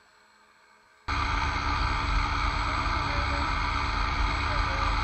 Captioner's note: engine revving